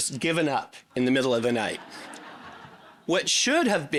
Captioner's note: audience laughing